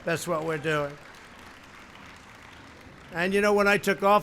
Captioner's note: applause